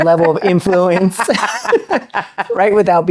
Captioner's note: laughs